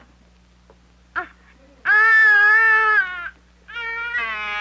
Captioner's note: llanto de bebé